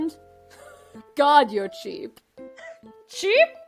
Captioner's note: scoffs